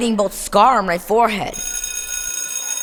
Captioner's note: school bell rings